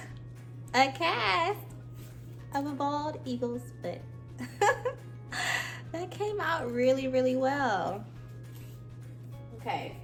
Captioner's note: laughter